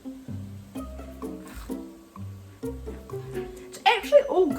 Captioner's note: crunch